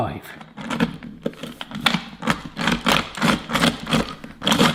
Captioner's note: gritty grinding